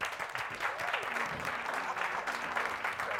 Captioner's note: todos apladan